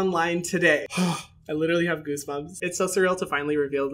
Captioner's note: exhaling excitedly